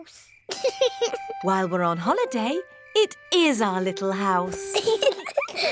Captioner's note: george laughs; both laugh